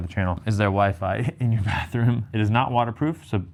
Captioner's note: chuckles